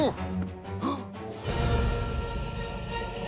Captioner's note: gasps